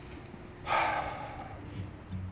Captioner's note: slGHS